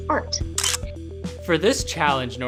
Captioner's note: camera click